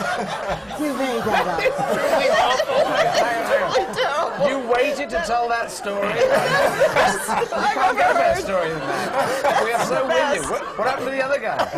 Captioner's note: laughter; laughter